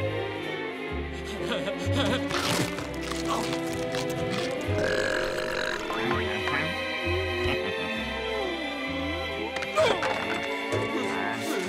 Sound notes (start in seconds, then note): 1.3 laughing; 4.5 belching